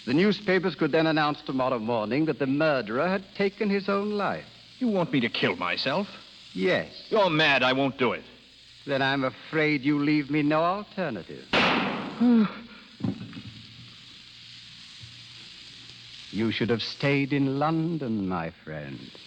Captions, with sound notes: the newspapers could then announce tomorrow morning that the murderer had taken his own life. You want me to kill myself? Yes. You're mad I won't do it. Then I'm afraid you leave me no alternative. (Gunshot) (Sigh) You should have stayed in London, my friend.